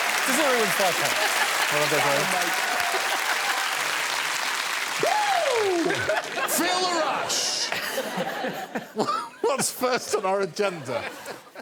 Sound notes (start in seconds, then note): 3.0 cheers and applause; 7.6 laughter